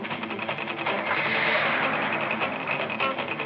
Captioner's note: engine starts